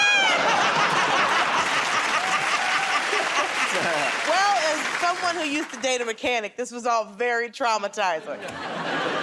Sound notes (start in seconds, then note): 0.1 laughter; 3.0 applause; 8.3 laughter